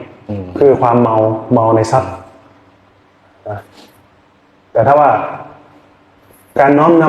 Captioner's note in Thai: เสียงสูดหายใจ